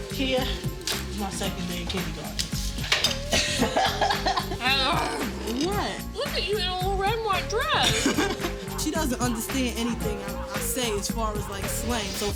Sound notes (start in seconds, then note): 3.2 laughing